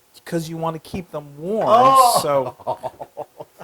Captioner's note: laugh